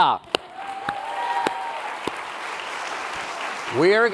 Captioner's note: applause and cheering